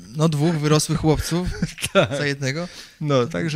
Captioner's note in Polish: śmiech